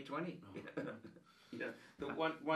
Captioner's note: laughing